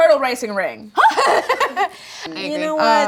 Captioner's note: woman in white vest laughing